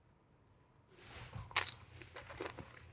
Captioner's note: chip crunches